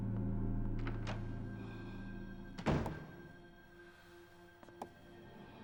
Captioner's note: door slamming closed